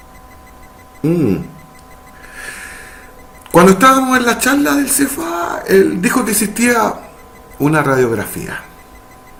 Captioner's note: mmm